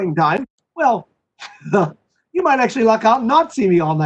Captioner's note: laughter